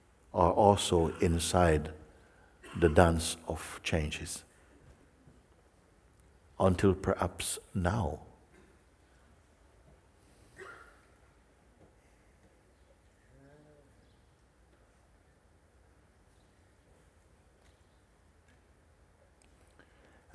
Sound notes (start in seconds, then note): 8.9 silence